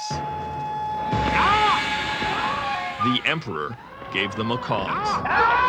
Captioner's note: plane engine roaring